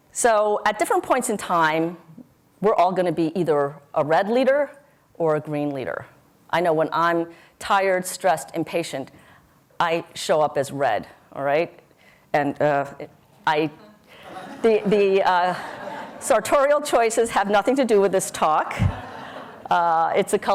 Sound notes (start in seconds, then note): 12.9 audience laughs